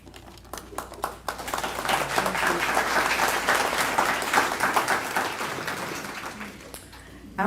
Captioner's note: applause